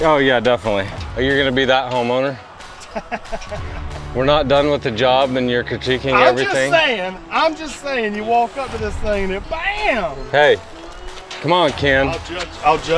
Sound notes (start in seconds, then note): 2.8 laughs